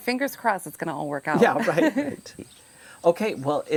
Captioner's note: both laugh